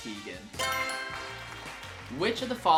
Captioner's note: answer board chimes; crowd claps